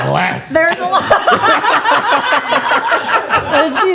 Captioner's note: laughs